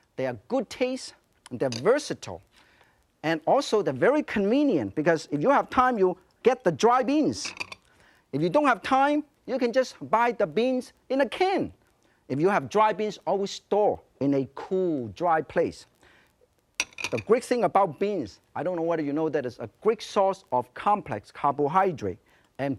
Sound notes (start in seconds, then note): none